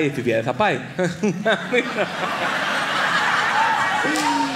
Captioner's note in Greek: μέσα από τα δόντια